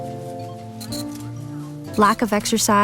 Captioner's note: cash registers beeping